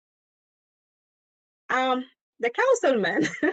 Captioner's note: laughter